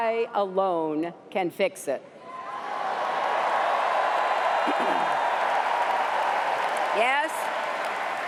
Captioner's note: cheers and applause